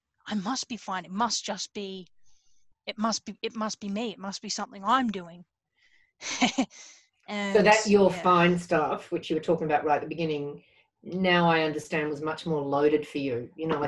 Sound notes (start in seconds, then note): 7.4 laughs